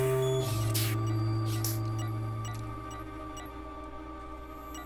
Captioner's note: electronic beeping